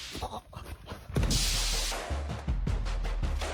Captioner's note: electric shock